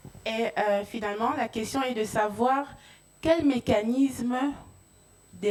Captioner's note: speaking in French